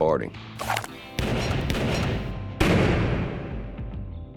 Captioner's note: gunshots